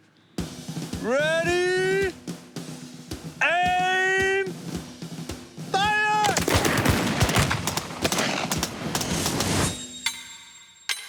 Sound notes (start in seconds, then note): 5.7 gunshots